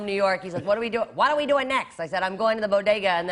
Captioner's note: new York accent; normal voice